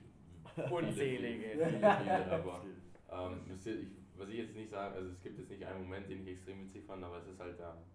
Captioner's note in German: alle lachen